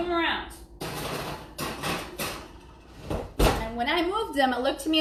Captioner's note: metal clanging